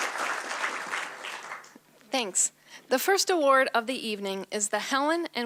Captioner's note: applause